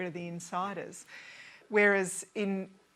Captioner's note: none